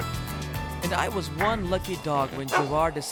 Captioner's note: barking sound